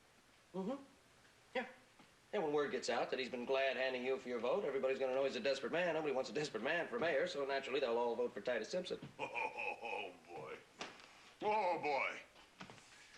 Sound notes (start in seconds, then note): 9.1 chuckling